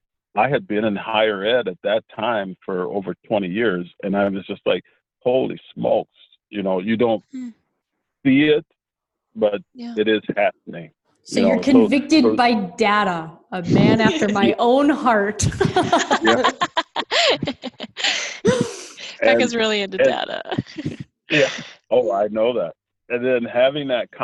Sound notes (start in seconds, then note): 15.5 all laugh